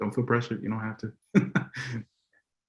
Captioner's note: laughs